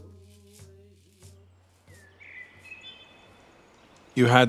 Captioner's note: birds chirping